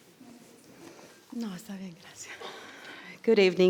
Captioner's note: speaking in foreign language